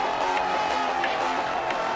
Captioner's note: crowd cheering